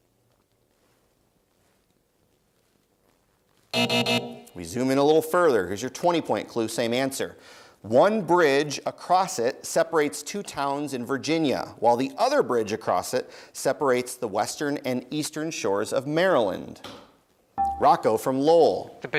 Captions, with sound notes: (Buzzer) We zoom in a little further, here's your 20 point clue. Same answer. One bridge across it separates two towns in Virginia, while the other bridge across it separates the western and eastern shores of Maryland. Rocco from Lowell.